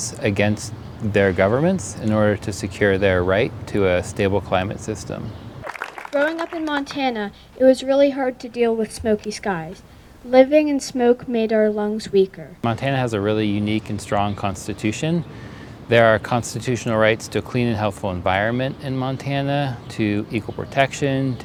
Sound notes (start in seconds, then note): 5.6 crowd applauding